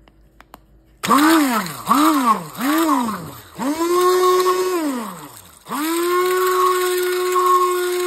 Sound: blending sound

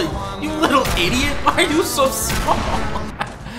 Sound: laugh

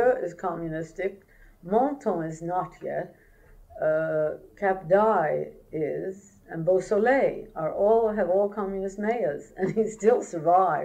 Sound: laughs

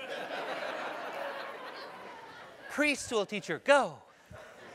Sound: laugh

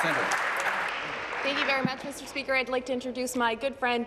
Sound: applause

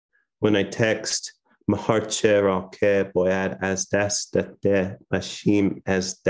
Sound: speaking foreign language

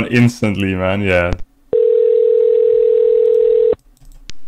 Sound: dialing

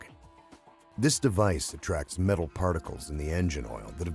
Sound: voiceover

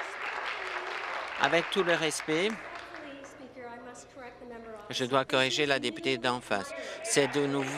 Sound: applause

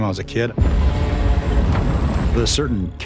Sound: ground cracking

